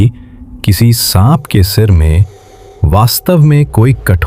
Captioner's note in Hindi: नाक से की जाने वाली आवाज़